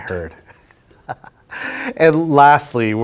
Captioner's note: laughter